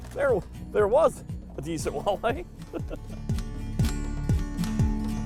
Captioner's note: laughing